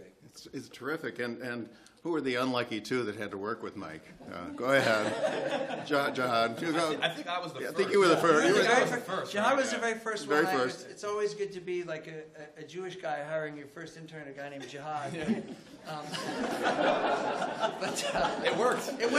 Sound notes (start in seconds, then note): 4.4 laughter; 14.6 laughter